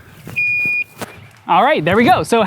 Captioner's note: beep